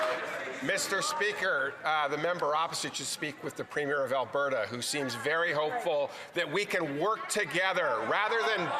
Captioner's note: some Applause